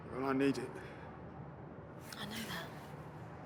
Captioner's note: none